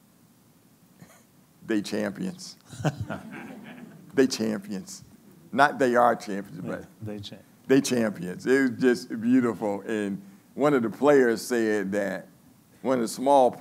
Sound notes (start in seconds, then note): 2.6 laughing